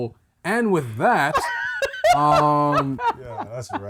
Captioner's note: laughter